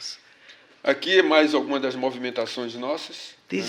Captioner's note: speaking portuguese